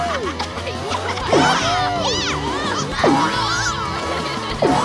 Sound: yelling

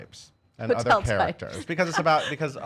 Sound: laughing

